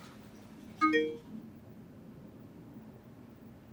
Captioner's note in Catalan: Sonen una notificació del mòbil